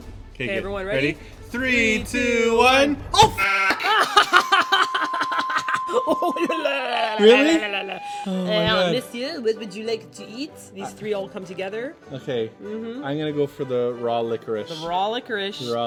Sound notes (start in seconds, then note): 3.5 sheep noise; 8.5 french accent; 10.5 normal voice